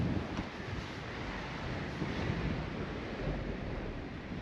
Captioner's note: wind fluttering